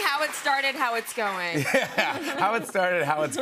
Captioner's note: laughter